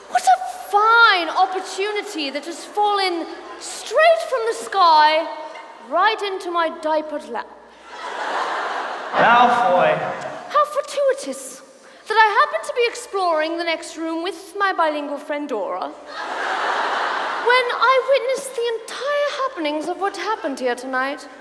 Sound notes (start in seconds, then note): 7.7 audience laughs; 16.0 audience laughs